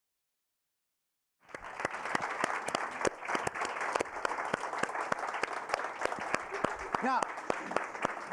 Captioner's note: applause